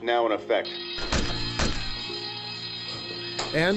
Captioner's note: alarm blares